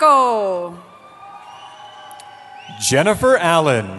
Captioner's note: cheering